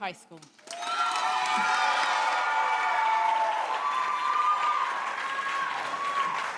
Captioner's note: audience cheering